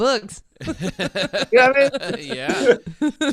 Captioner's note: laughing